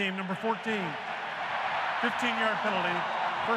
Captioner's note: cheering